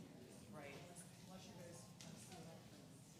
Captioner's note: background chatter